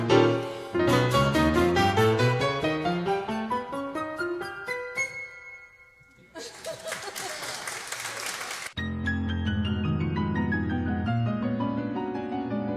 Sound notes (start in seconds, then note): 6.4 audience applauds; 8.8 classical piano music